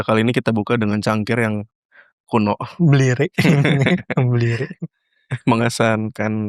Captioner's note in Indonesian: tertawa